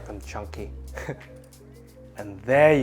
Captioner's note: chuckles